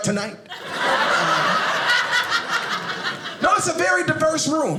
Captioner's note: audience laughing